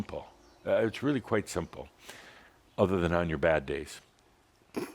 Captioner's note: snorts